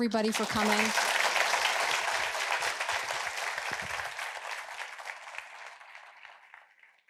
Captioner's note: applause